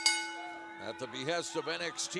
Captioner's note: bell ringing